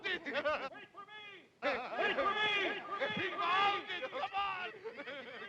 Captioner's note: cackling; voice echoes; cackling; voices echoing